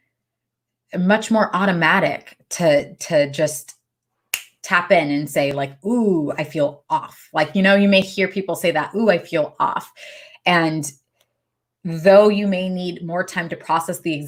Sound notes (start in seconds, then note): 4.3 snaps fingers